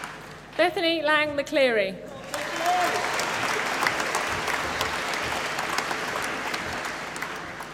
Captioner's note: applause